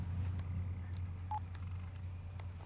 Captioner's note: cell phone beeps